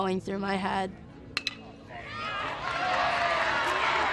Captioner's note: bat cracks baseball; crowd cheers